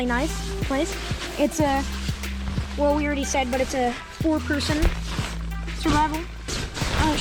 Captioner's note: plastic rustling a lot